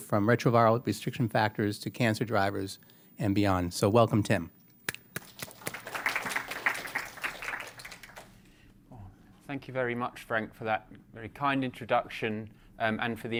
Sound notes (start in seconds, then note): 5.1 applause